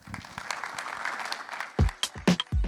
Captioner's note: applause